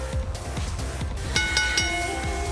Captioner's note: bell